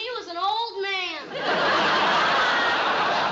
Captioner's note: laughter